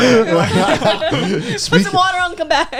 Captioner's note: laughing